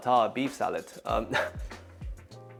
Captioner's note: chuckles